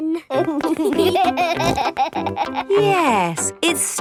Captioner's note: laughing